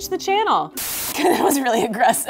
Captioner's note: static